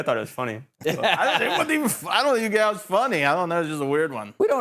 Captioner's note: laughing